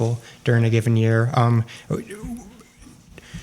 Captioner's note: laughter